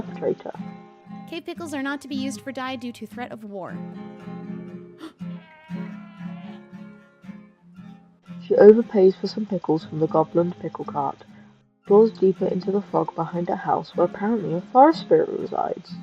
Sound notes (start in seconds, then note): 5.0 gasp; 5.0 a goat screeches